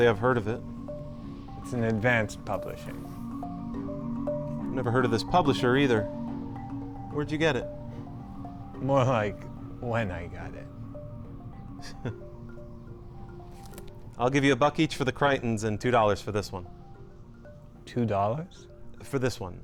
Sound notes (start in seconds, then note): 11.8 chuckle; 11.8 forced chuckle